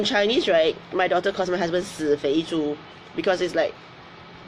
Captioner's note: speaks in foreign language